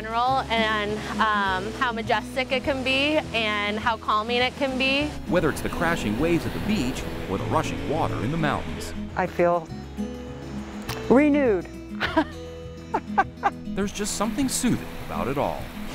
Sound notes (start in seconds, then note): 12.9 laughing